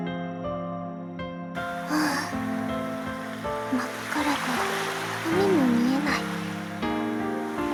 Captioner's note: sigh